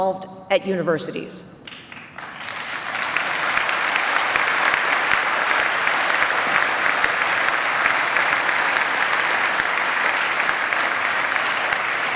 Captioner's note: applause